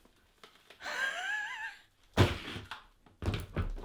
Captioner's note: laughing